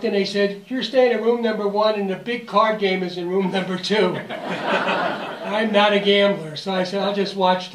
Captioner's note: laughter